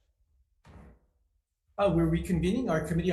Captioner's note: gavel bangs